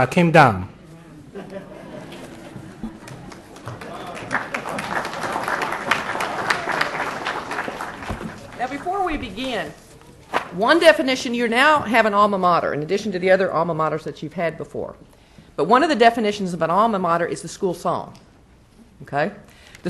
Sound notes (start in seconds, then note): 4.6 applause